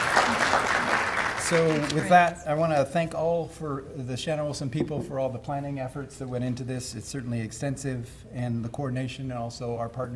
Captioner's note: applause